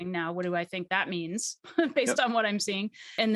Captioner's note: chuckles